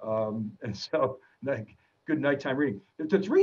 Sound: chuckles

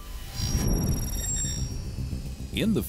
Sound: camera chirping

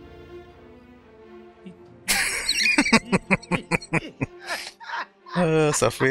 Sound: laughing

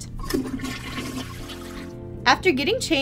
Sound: toilet flushes

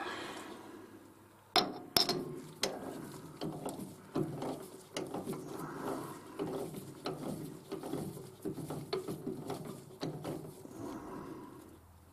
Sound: mechanical noise

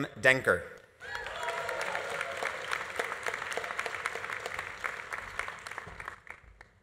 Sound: audience cheering; audience applauding

